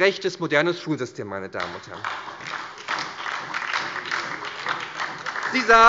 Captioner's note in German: Beifall bei der SPD